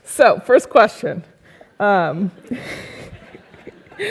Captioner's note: laugh